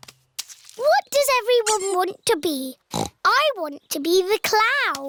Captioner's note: snorts